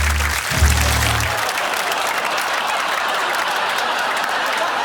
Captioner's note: laughter